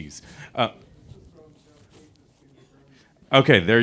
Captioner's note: attendee speaks off mic